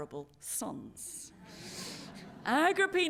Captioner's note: laughter